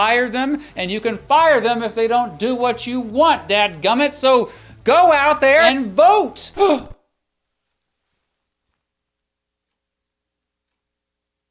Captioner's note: catching breath